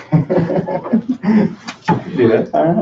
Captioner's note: laughs